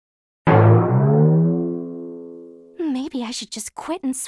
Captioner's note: boing